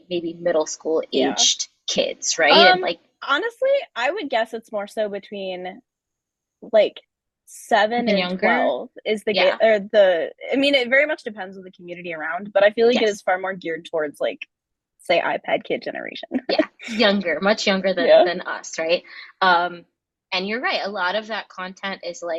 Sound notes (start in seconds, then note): 18.0 chuckles